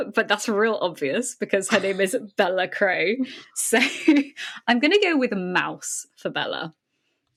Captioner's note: laughing